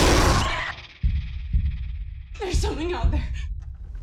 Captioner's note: screaming